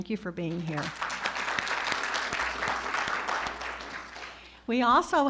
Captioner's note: audience applauding